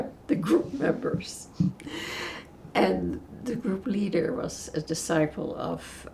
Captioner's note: laughing